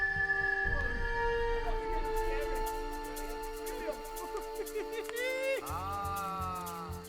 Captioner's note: laughing and talking indistinctly